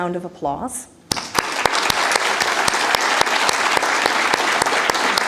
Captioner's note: applause